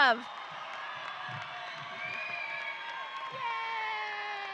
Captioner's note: audience cheering